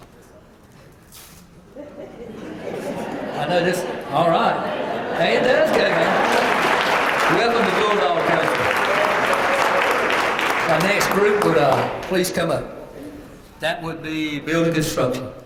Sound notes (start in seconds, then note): 1.8 laugh; 5.6 applause